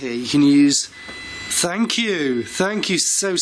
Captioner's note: machine beeping